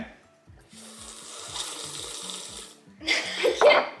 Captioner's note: slurping; laughs